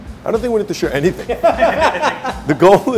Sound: chefs laughs

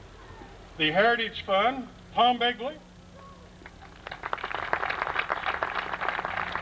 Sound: applause

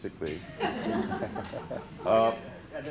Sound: laughter

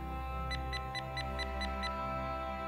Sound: beeping

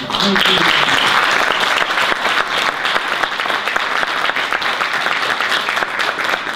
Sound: audience applause

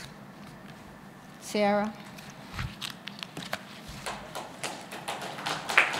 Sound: applause

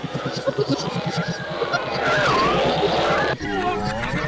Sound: engine shuts off

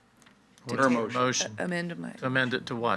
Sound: group chattering

